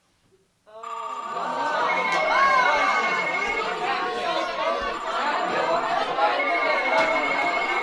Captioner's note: phones ringing. People groaning, yelling